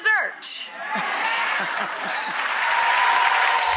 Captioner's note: audience cheers